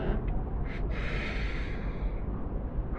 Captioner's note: quick inhale